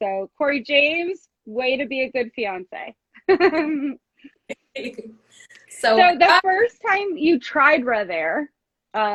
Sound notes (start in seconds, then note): 3.2 both laugh